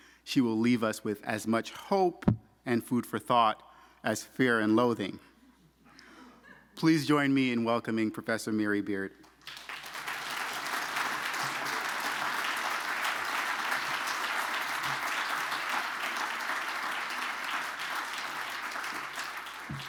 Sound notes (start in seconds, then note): 5.6 audience laughing; 9.6 audience applauding